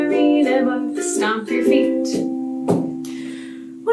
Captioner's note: feet stomping